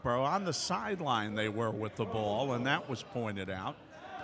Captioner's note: none